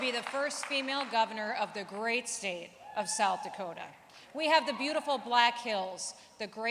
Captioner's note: cheering